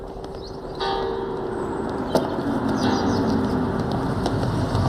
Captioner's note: bell rings